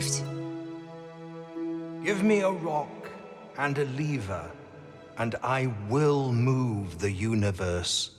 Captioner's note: ethereal voice